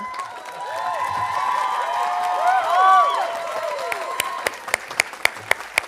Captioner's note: audience applauding and cheering